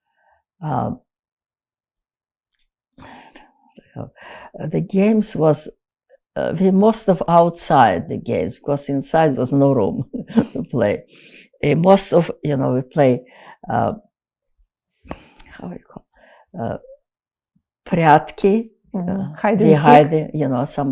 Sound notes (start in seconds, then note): 17.9 russian